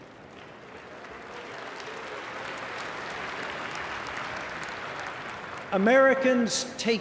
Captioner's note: applause